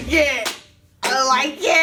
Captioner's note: slapping